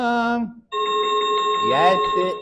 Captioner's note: chiming sound effect